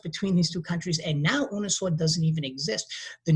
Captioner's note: speaking in a foreign language